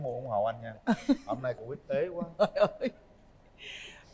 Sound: laughter

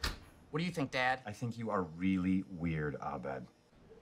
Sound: none

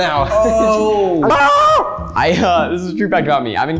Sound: screams

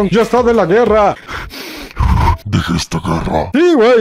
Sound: breathes intensely

